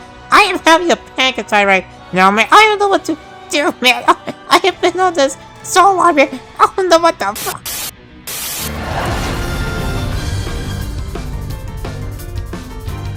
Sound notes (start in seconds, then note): 3.8 panic attack noises